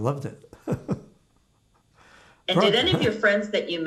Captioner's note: laughing